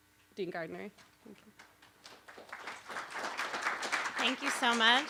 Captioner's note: applause